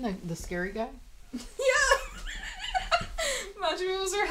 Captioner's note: laughing